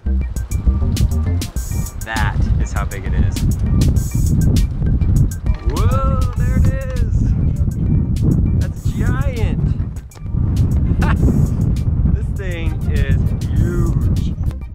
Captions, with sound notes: That is how big it is. Whoa, there it is, let the sky in! (laughs) This thing is huge.